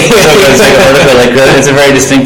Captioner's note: laughing